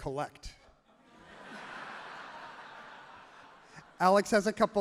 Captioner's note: audience laughs happily